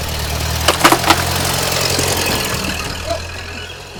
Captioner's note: crashing